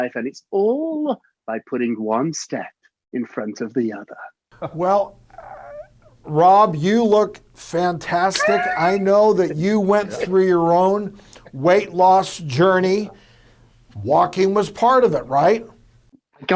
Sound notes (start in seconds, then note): 8.1 laughs